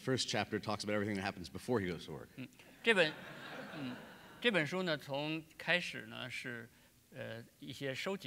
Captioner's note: speaking in Chinese; speaking in Chinese